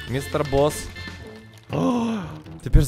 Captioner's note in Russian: Вздох